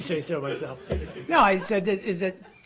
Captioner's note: laughter